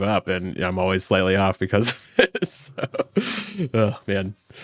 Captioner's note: laughs